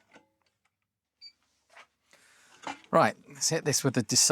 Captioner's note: silence